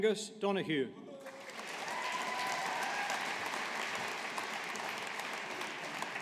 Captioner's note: audience applauding